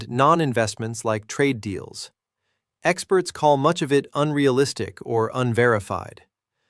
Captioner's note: sarcastic